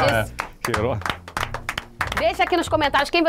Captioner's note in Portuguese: palmas